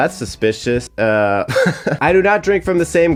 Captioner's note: chuckling